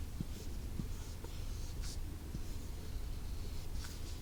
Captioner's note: writing sound